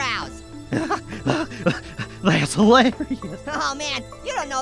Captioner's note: laughing